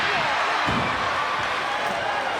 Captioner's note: body thuds; crowd yelling